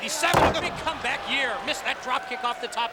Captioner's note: mat thumping